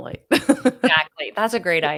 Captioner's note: laughs